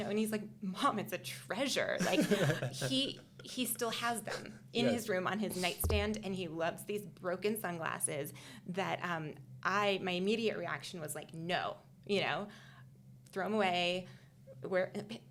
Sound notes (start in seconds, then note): 2.0 laughing